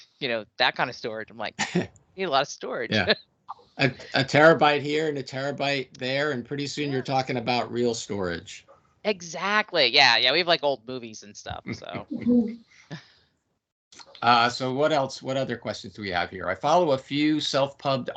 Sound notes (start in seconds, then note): 1.6 chuckling; 3.8 laughing